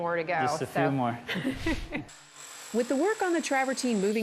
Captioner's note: laughing